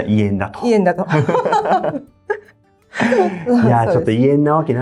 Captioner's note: laughs